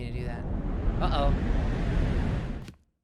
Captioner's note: loud whooshing